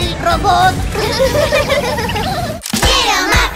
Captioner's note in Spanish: Risas